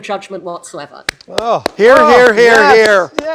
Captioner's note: applauding